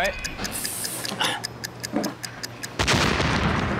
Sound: clock ticking; explosion rumbles

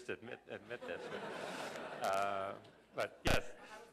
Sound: laughter

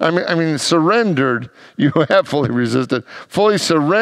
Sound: laughs

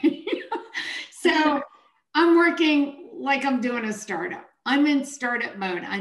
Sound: chuckles

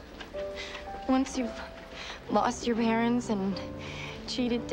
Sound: voice Breaking

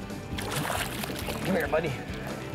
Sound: water splashing

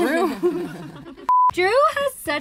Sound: group laughs; beep

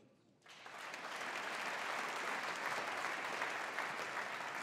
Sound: audience applauding

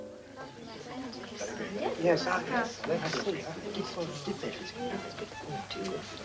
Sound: chatter

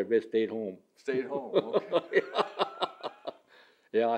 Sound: laughs

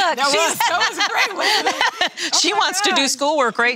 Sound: laughs

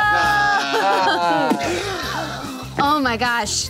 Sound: laughing

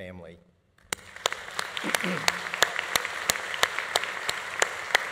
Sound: audience applauding

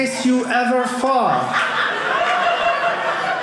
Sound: audience laughing

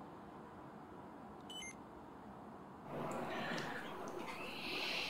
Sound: beeping

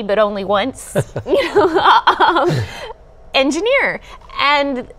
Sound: cumulative laughing

